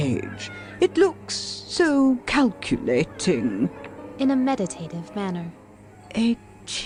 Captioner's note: in a meditative manner